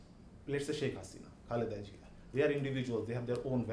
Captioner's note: speaking in foreign language